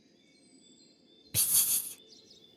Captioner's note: birds chirping